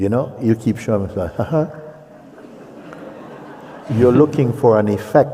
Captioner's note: laughter